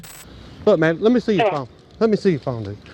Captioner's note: radio chatter